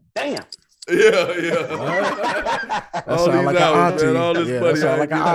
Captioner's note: everyone laughing